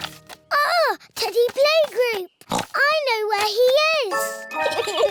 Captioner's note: oinks; both giggle